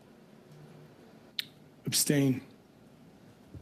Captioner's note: speaking French